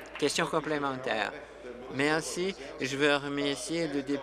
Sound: applause

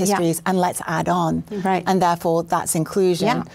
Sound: voiceover

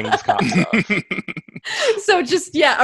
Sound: laughter

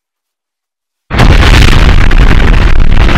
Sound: boom

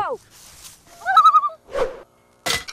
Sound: loon call

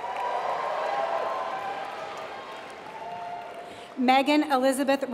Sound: applause

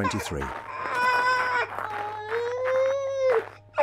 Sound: child crying

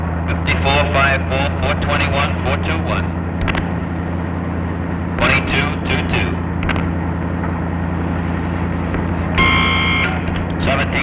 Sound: radio operator speaking in the background

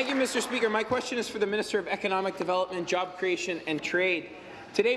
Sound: applause

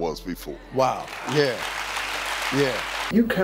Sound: audience clapping

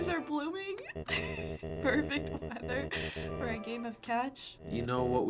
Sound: laughing

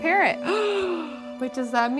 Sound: girl gasps

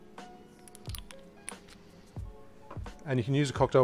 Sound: lid tightening

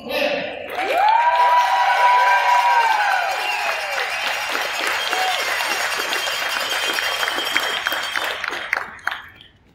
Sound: loud cheers and applause from crowd

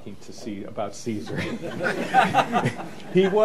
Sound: laughter

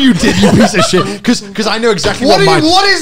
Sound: laughing

